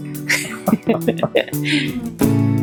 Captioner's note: laughter